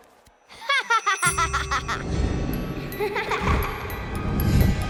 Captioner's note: laughing